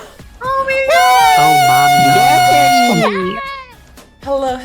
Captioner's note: cheering